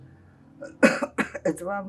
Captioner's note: coughing